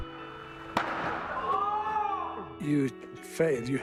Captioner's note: loud crack followed by yelling